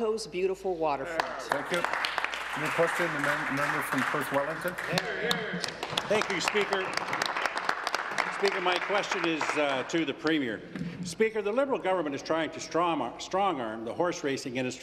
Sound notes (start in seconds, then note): 6.2 applause